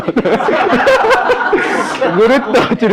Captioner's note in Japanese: 笑い